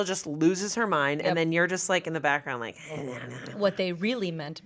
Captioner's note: mutters